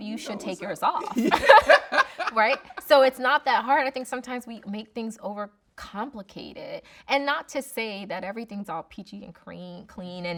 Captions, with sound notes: you should take yours off, right. (both laughing) So, it's not that hard. I think sometimes we make things over complicated. And not to say that everything's all peachy and clean